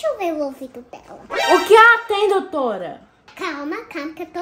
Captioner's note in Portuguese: som de espanto